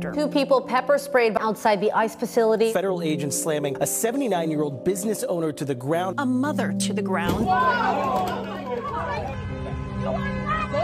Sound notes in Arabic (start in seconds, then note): 7.5 صراخ في الخلفية